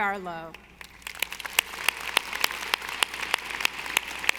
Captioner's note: audience applauding